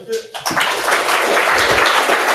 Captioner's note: applause